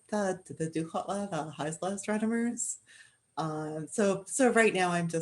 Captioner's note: speaking Indigenous language